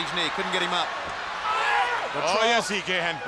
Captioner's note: crowd cheering